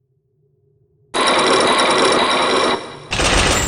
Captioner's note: chains grinding!